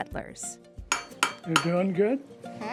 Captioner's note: hammer striking metal